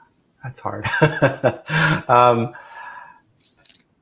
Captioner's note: laughs